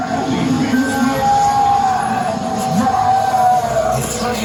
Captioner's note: creepy garbled speaking